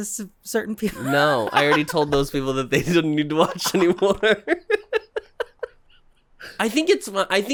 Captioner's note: giggling